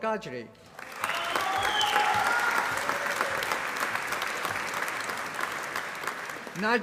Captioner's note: applause